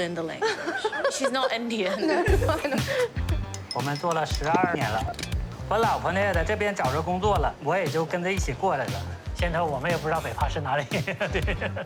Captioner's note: both laugh; speaks chinese language